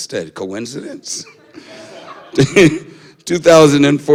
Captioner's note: laughter